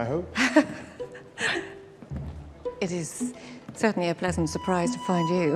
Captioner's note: giggling